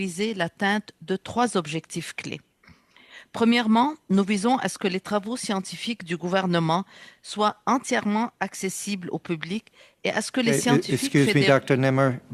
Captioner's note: speaking French